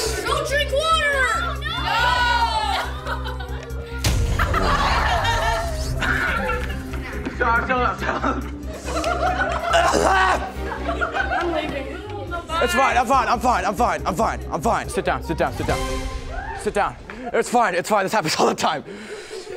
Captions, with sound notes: Don't drink water! - No! - No! [laughing] Sorry, I feel OK. [laughing] [coughing] I'm leaving. It's alright, I'm fine, I'm fine, I'm fine, I'm fine, sit down, sit down. Sit down, it's fine, it's fine, this happens all the time.